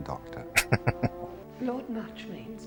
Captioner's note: chuckling